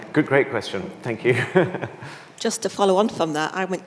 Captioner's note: chuckling